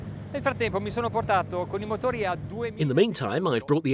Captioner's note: speaking foreign language